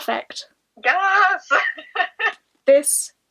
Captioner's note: laughs